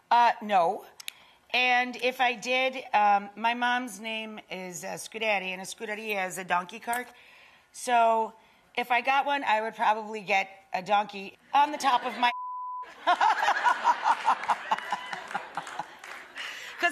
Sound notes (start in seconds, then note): 12.3 beep; 12.9 laughing; 13.8 audience clapping